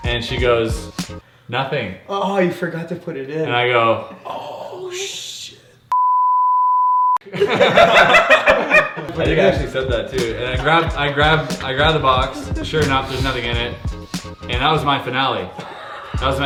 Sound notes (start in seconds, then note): 5.9 beeping sound; 7.2 laughing